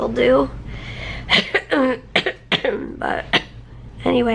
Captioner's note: coughing